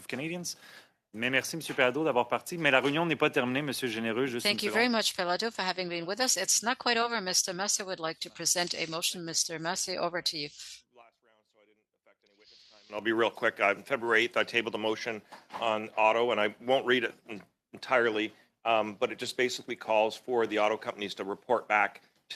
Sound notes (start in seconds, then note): 9.6 speaking French